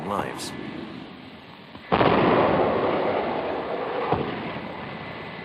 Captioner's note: bombs exploding